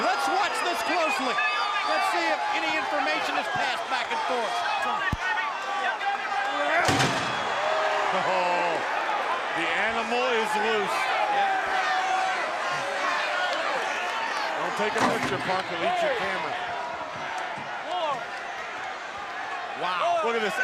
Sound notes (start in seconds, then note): 4.3 crowd chatter; 5.0 crowd cheering; 10.4 crowd chatter; 16.7 crowd chatter